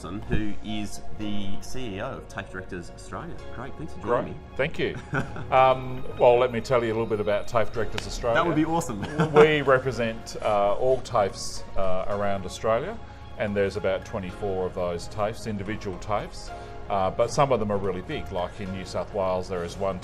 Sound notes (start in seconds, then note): 4.9 soft chuckles; 8.9 chuckles